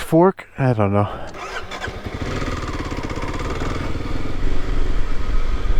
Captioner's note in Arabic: هدير محرك الدراجة